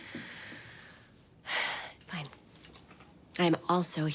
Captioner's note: sighs